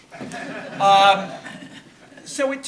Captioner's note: audience laughing